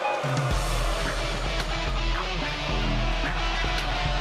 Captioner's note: cheers & boos